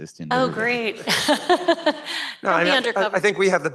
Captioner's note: laughs